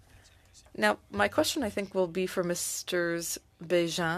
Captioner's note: speaking French